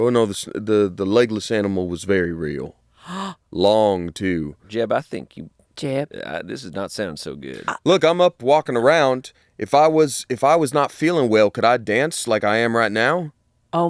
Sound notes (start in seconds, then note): 3.0 gasps